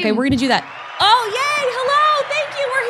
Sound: crowd cheering

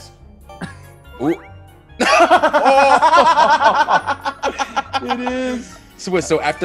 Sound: laugh

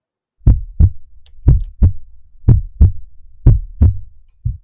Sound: heartbeat

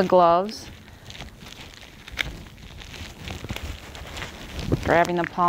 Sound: gloves rustling

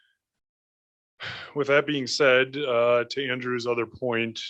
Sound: sighs

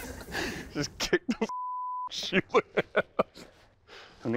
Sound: laughing

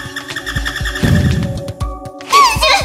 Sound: poof!!

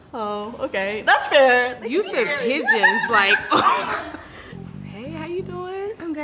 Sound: laughs

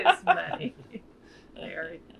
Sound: laughs

